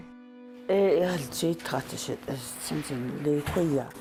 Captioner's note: speaks foreign